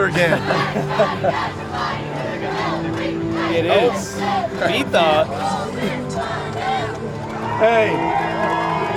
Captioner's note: cheering